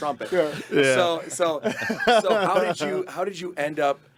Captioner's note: group laughing